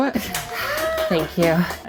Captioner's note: people clapping